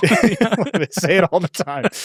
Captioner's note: laugh